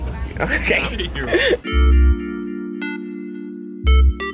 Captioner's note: laughing; R&B instrumental music